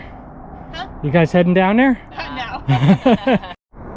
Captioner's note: both laughing